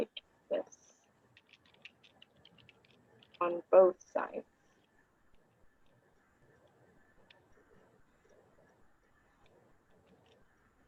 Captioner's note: silence